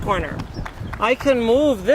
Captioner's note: clapping